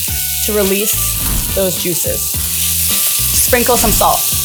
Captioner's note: pan sizzling; instructions whooshing